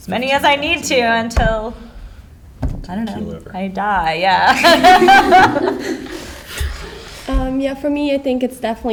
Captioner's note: laughs